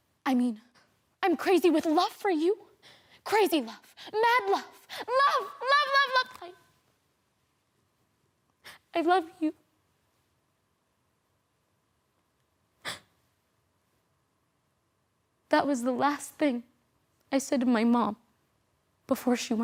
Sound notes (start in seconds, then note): 6.6 soft sniffling; 9.9 silent cries; 12.7 sharp breath in; 13.1 silent